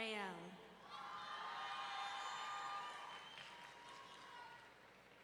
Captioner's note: audience cheering